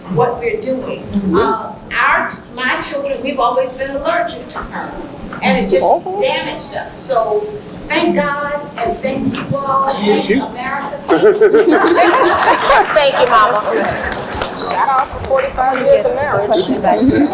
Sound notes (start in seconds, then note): 9.2 laughs; 11.5 laugh